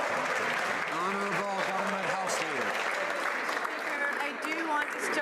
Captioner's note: some Applause